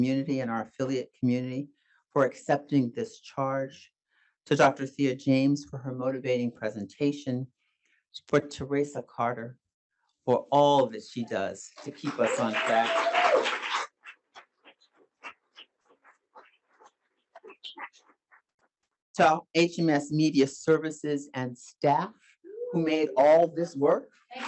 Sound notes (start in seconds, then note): 11.8 audience applauding; 11.8 audience cheering